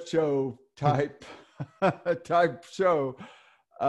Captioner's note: laughs